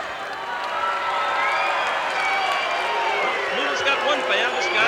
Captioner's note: audience cheering